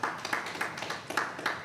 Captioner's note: applause